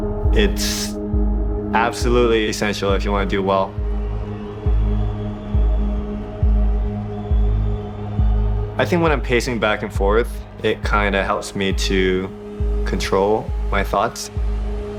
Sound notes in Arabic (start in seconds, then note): 4.6 تشجيع الجمهور